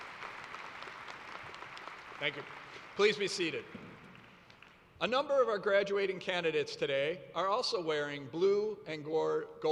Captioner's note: applause